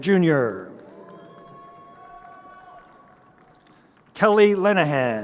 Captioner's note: crowd cheering